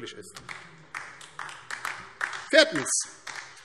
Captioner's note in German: Beifall DIE LINKE